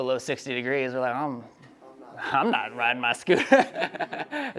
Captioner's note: laughs